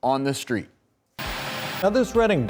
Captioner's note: static